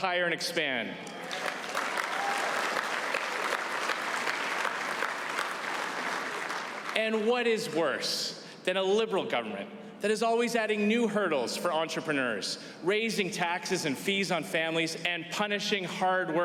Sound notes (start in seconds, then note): 5.1 applause